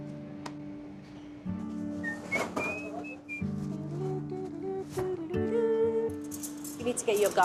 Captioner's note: whistles and hums